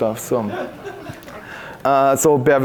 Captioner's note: audience chuckling